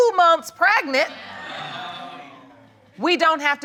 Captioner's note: audience exclaims